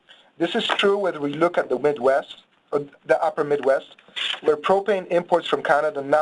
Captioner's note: pages turning